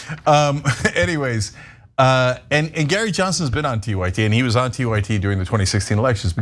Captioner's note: laugh